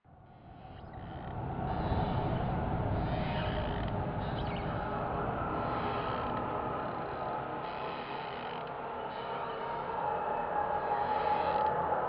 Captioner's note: windy, forboding ambience